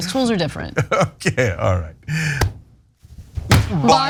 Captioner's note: laugh